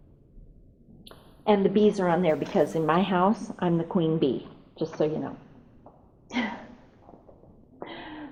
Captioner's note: laughs